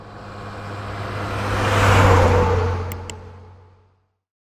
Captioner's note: engine revving